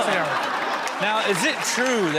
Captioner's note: audience laughing